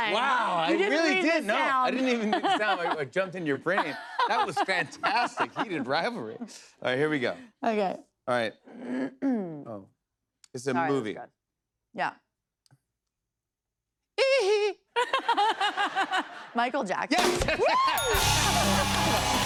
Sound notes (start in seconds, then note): 8.6 clears throat; 14.2 laughter; 17.9 ding!; 19.3 cheers and applause